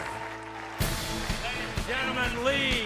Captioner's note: audience applauds